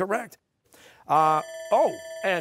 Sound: bell rings

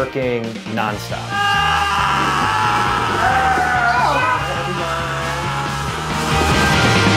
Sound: screaming

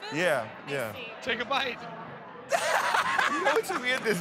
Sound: laughs

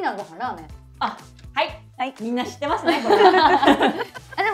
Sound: laughs

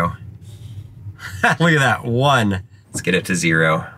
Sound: laughs

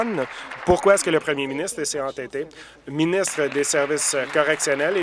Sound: applause

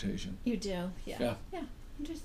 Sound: voiceover

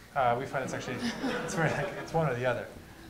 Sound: laughter

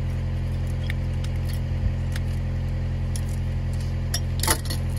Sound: chain jangling

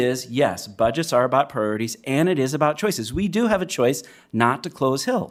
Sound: none

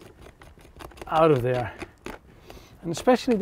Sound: scraping

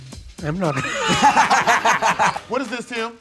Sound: all laughing

